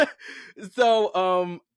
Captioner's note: laughs